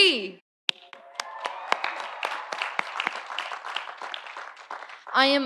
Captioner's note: audience applauding; audience cheering